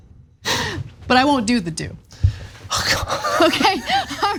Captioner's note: laugh